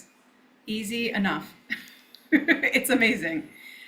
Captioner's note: laughs